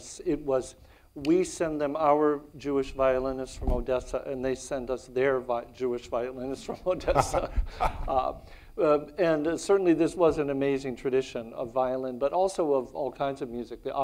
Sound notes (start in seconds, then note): 6.7 laughs